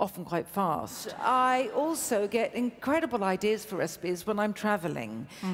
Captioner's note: laughs